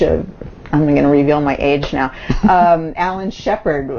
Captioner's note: laughs